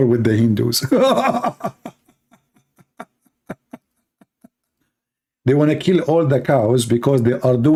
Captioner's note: Ketawa